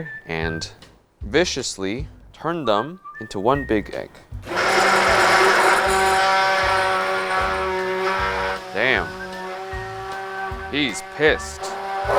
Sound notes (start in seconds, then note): 4.4 blender whirring